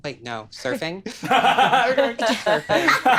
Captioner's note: all laughing